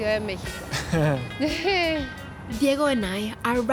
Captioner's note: both laugh